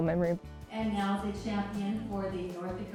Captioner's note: voiceover